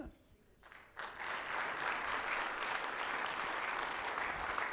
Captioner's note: audience applauding